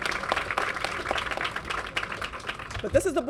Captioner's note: applause